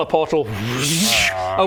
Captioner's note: wwrrssscsshhh